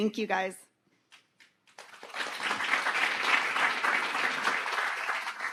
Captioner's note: audience applauding